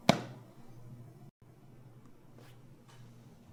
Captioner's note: hand pats